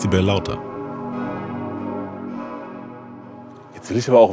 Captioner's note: bell ringing